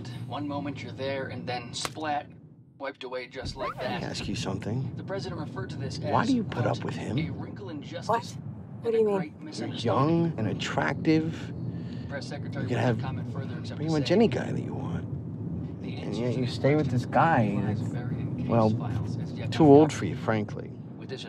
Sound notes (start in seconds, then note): 5.2 voice over radio; 21.1 voice over radio